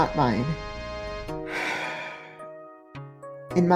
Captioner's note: le sigh